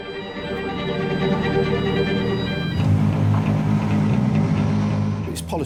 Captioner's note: sirens blaring continues; suspenseful music